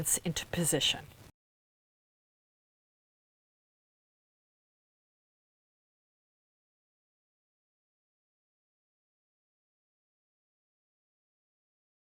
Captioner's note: no Sound Present